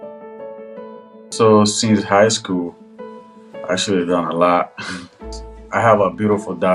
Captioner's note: chuckles